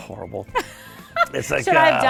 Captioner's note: laughs